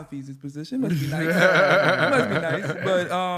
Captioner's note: laughter